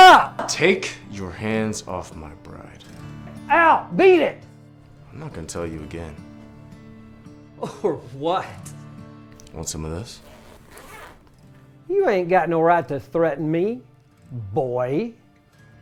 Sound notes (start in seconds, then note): 10.0 zipper clattering